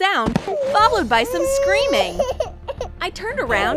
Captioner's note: baby crying